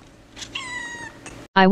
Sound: mew

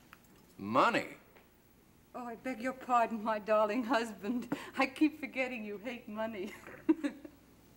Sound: laughs

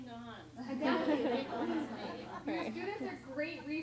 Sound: laughter

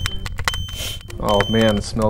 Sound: smoke alarm going off; sniff

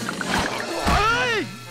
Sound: screams

